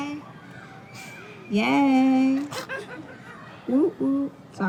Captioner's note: laughter